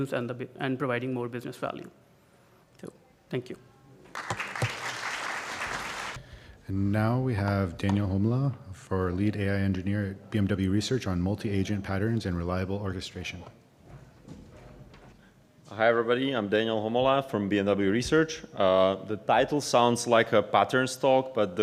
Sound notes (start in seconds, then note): 4.1 applause